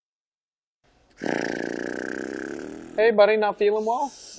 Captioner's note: blowing raspberry